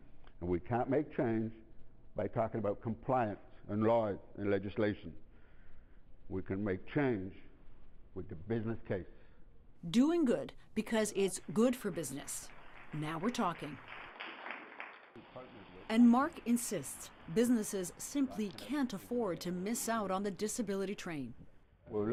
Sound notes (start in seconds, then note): 14.3 tepuk tangan